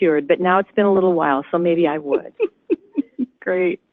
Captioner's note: laughs